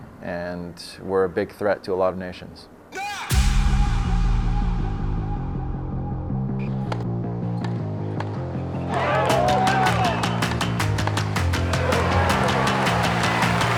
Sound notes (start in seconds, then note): 3.3 upbeat music; 8.8 crowd cheering